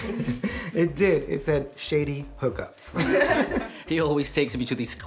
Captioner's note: laughter; laughter